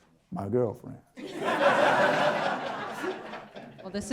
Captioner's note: audience Laughter